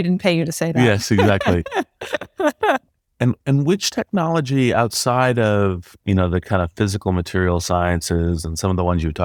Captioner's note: laugh